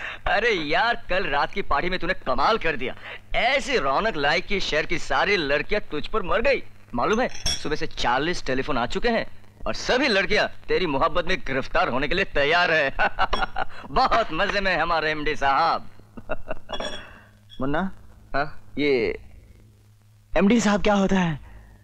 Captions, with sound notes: You were great in the party last night. You livened up the party. All the girls were swooning over you. There have been 40 calls for you since morning. And all the girls are ready to date you. (Laughs) Our MD is doing great. (Laughs) Munna, what is MD?